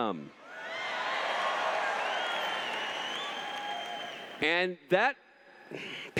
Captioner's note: cheers